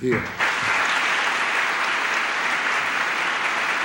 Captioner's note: applause